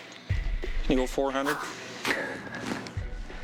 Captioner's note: exhales